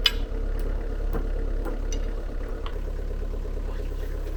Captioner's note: hammer thumping; engine idling